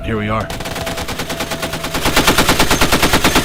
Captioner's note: weapon firing